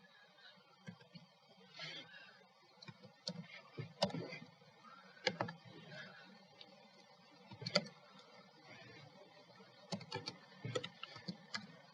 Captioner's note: typing